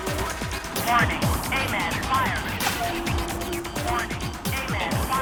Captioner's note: automated Voice